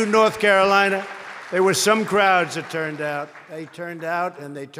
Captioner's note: applause